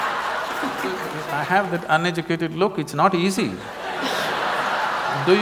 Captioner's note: laughter; laughter